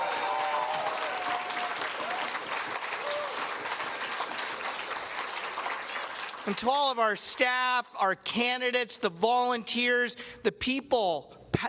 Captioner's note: cheers and applause